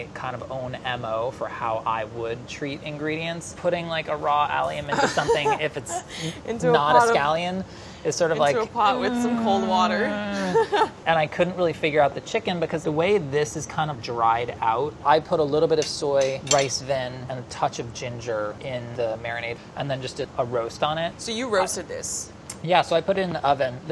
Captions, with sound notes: kind of own MO for how I would treat ingredients. Putting a raw allium in something, if it's not a scallion. - Into a pot of. Is sort of like-- - Into a pot with some cold water. [laughing] [groaning] - And I couldn't really figure out the chicken because the way this is kind of dried out, I put a little bit of soy, rice vin, and a touch of ginger in the marinade and then just did a roast on it. - So you roasted this? - Yeah, so I put it in the oven.